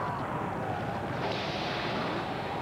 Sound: whip crack

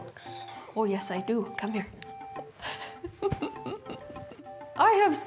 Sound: chuckling

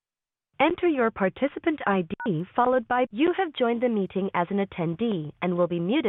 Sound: beeps

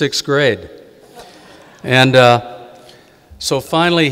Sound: audience giggling

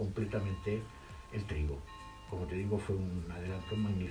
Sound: bell ringing

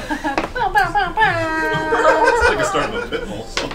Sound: imitates horn

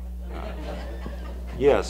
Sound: audience laughs

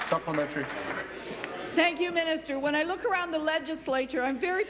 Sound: applause

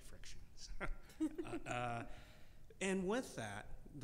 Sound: laughing

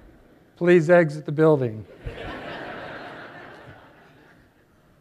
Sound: laughter

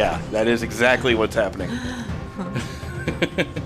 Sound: laughs

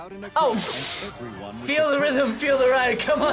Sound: laughs

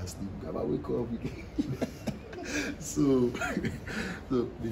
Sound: laughs

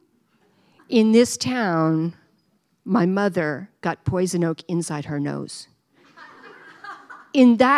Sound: laughter

